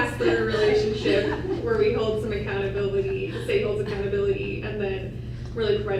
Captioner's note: laughter